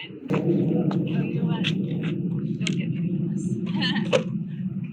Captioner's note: laughs